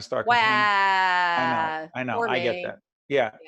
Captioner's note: crying baby sound